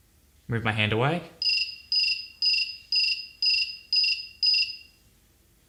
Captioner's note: cricket chirping